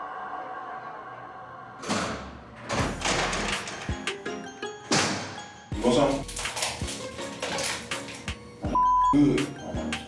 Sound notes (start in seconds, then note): 1.8 cell doors open and close